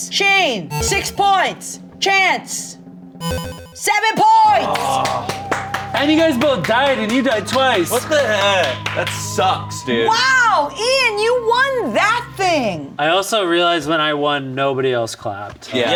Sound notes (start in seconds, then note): 4.5 clapping; 4.7 creepy other-worldly music